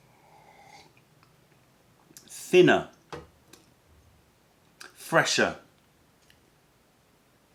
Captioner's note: sips tea